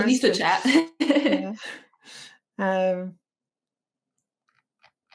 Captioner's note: chuckles